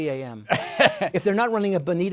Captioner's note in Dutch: Laughs